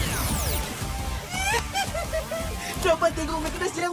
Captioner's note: squees